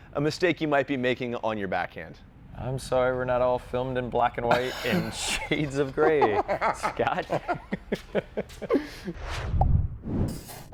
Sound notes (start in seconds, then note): 4.5 laughing